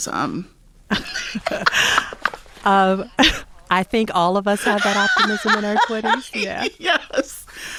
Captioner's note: laughter